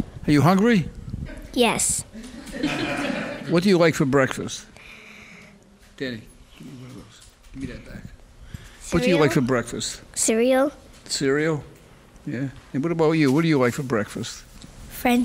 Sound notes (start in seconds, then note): 2.2 laughing